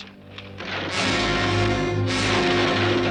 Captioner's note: crash sounds